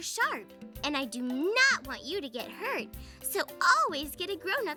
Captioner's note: none